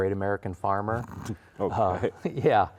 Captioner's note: laughs